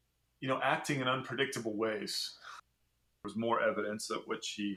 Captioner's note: podcast Voice